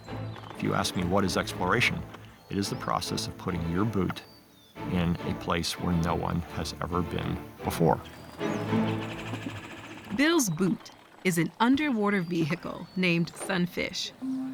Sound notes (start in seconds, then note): 8.0 bird calling